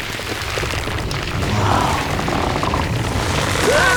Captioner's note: creaking